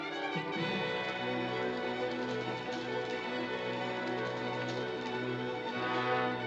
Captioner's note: suspenseful music; wings flapping; dramatic music